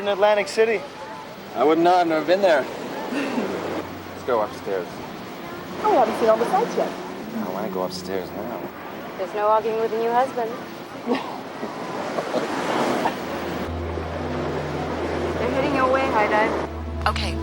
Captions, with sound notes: - Even better than Atlantic City? - I wouldn't know, I've never been there. Let's go upstairs. - I wanna see all the sights yet. - I wanna go upstairs now. - There's no arguing with a new husband. (laughs) (mysterious music) They're heading your way, High Dive.